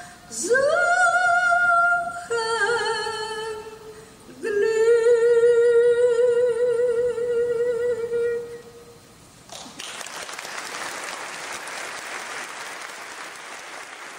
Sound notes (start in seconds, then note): 9.4 audience clapping